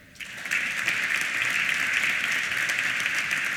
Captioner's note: applause